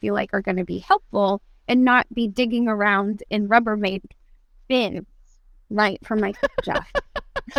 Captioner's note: laughter